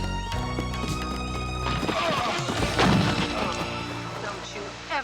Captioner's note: bodies thudding; men groaning